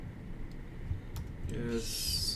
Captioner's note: none